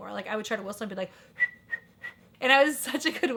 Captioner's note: whistling